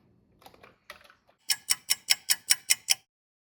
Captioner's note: sound of a ticking clock